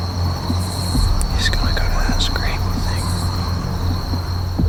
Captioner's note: whispering